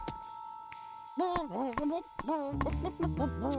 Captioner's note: bawking melodically